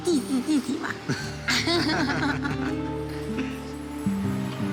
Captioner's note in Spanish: risas